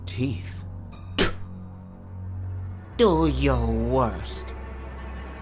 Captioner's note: spits